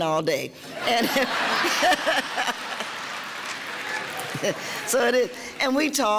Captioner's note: laughing